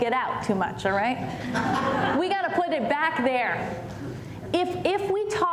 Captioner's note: laughter